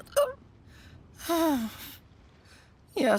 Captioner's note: sigh